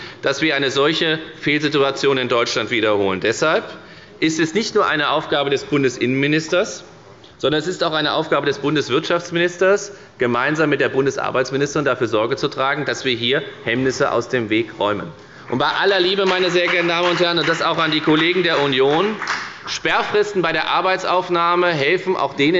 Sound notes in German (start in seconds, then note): 15.4 Beifall bei der FDP